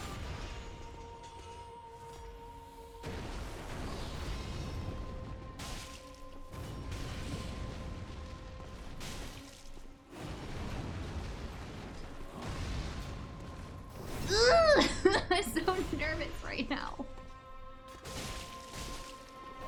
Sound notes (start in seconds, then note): 0.0 suspenseful music; 7.5 laughs